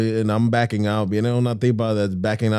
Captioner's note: speaking In Foreign Language